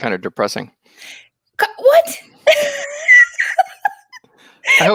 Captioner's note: laughs